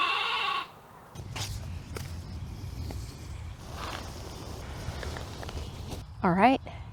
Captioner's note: sheep noises; faux leather rustles as birds sing faintly in the background